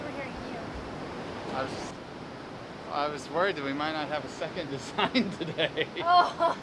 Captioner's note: laughs